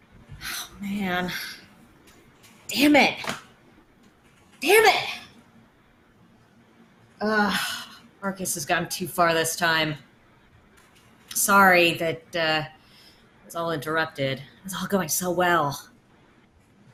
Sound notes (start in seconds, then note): 7.3 groans